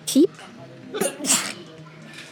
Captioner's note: sneezes